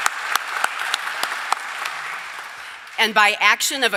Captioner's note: applause